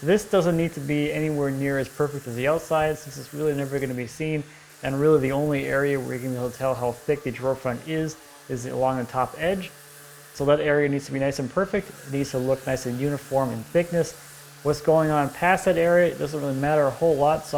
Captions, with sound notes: This doesn't need to be anywhere near as perfect as the outside, (sander quietly buzzing) 'cause this is, really, never gonna be seen, and, really, the only area where you're gonna be able to tell how thick the drawer-front is, is along the top edge. So, that area needs to be nice and perfect, needs to look nice and uniform in thickness. What's going on past that area, doesn't really matter a whole lot,